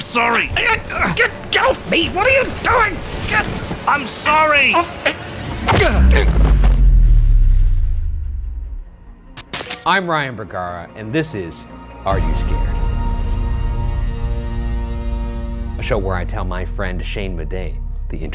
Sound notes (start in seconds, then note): 0.7 groaning; 5.6 punch thuds; 6.0 grunt